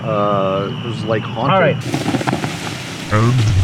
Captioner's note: fire sizzle